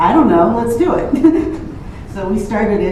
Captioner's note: laughs